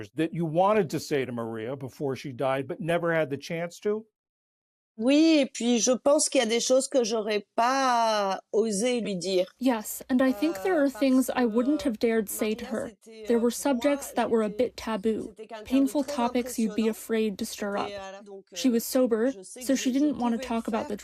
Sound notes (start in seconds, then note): 6.4 through translator